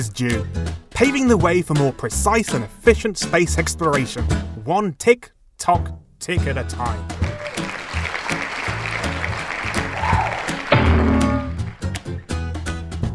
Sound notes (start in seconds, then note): 7.2 crowd applause; 9.8 bonk; 12.2 music fades out